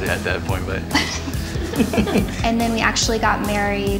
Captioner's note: laughing